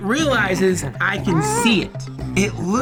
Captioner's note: gnome laughs; shocked whimper